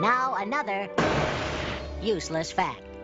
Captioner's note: bang